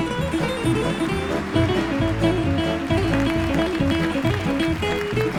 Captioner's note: audience applauding